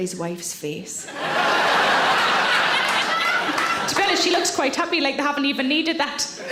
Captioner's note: audience laughing